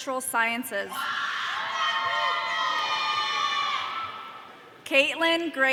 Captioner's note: audience cheering